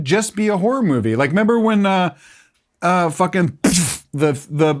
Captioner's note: imitates gun firing